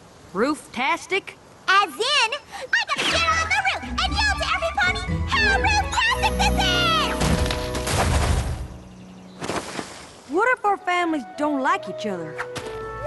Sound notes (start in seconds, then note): 7.2 crash